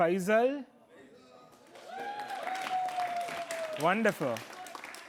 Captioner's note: applause